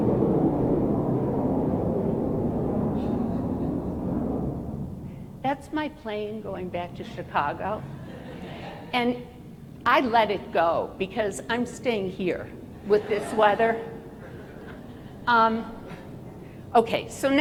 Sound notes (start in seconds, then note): 0.0 airplane noise; 7.8 laughter